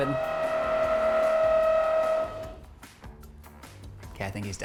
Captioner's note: drill roaring